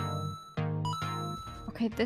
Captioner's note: ba ding!